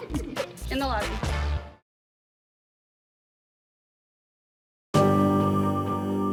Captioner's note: moviegoers giggle